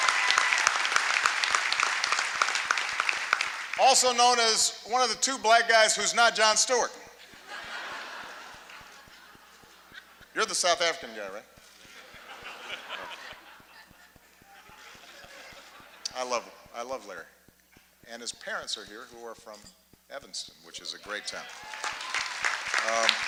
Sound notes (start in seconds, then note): 0.0 applause; 7.2 laughter; 14.4 laughter